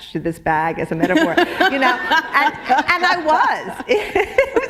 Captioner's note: laughter; chuckle